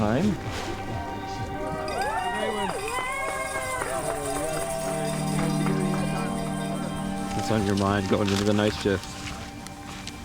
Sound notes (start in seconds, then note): 0.0 melancholic music; 1.6 cheers